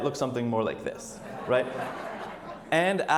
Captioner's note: audience laughs